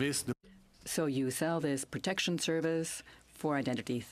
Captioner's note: speaking in French